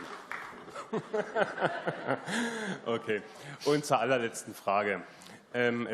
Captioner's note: applause